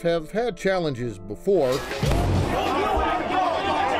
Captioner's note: rioting